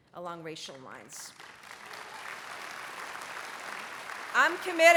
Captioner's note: applause